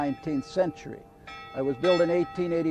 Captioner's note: bell ringing